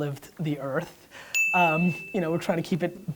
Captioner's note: bell rings